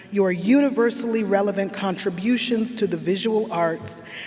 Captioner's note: none